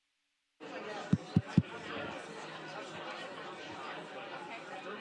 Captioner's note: audience speaking